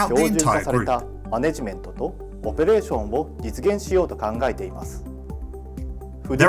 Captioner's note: speaks in Japanese